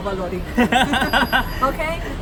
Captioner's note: laughs